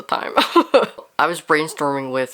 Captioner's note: laughs